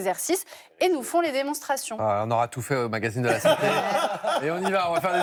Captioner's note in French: rires